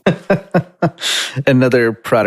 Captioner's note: laughing